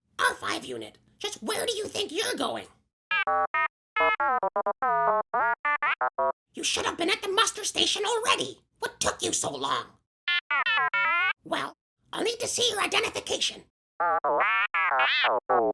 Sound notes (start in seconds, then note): 4.0 R5-40: innocent beeps; 10.1 R5-40: protest beeps; 14.3 R5-40: rude beeps